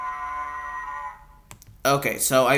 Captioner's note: Pillager Alarm sound